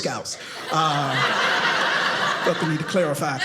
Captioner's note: audience laughing